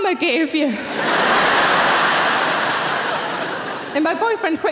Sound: audience laughing

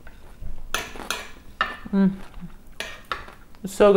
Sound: chewing

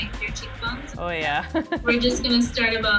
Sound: laughs

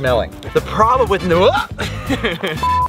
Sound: Rocky laughs; Rocky grunts

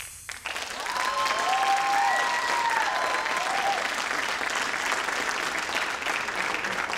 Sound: crowd applauds; crowd cheers

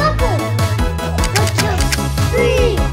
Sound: buckle clicking sound effect

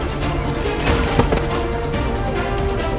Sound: thud

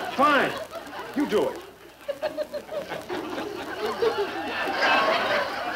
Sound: audience laughing

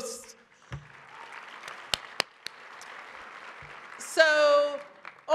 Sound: audience applauds

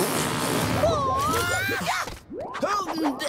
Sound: grunting

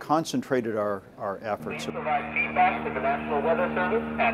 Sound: sounds of airplane announcement

